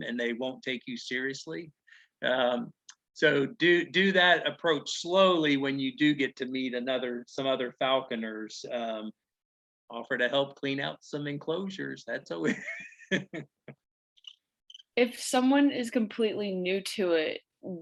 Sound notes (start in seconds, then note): 12.5 laughing